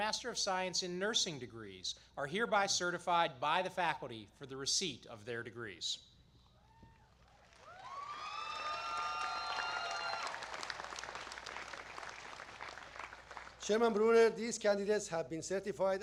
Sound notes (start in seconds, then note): 7.0 applause